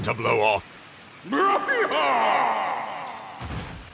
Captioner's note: loud and boastful roar